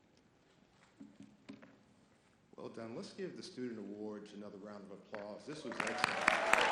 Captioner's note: audience applause